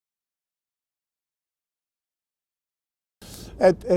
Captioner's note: silence